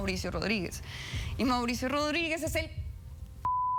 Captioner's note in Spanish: Bip